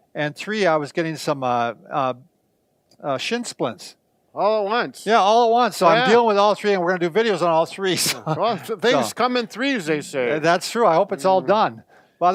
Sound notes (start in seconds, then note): 7.8 laughs